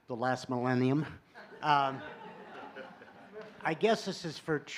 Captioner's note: laughter